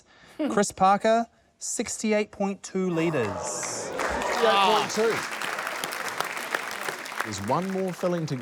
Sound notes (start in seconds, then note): 2.9 audience gasps; 3.0 applause